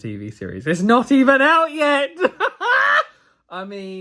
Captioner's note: laughs